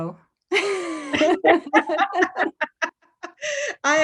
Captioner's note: laughs